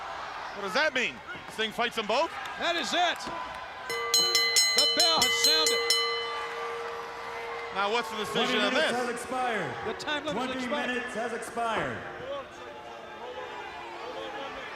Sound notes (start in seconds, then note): 4.0 bell ringing